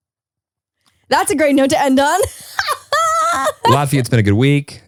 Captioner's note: laughs